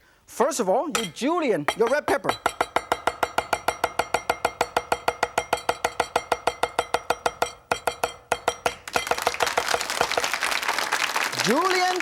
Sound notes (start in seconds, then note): 2.7 knife banging; 8.8 audience applauding